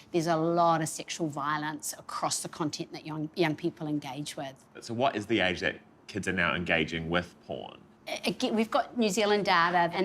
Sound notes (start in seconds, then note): none